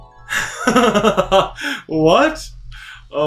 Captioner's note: chuckles